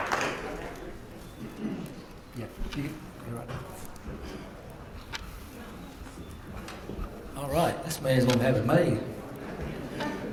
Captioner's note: applause